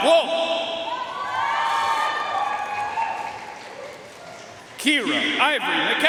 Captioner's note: audience cheering and applauding